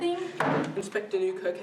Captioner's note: slam